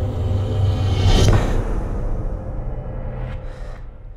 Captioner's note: gasps